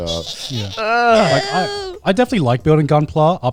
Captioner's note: groaning